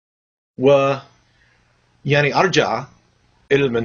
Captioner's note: speaking Arabic